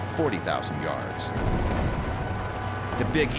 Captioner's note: gunfire